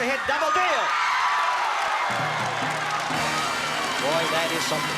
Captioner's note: applause and cheering